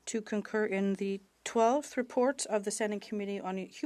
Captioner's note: speaking French